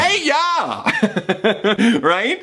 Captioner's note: laughs